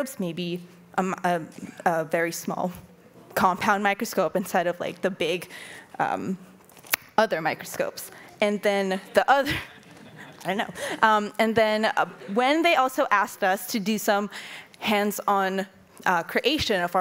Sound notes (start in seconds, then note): 9.0 audience laughing; 9.4 laughing